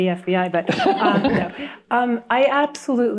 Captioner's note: others laughing